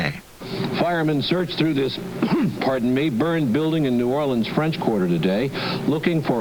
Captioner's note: coughs